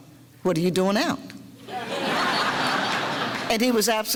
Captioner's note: audience laughter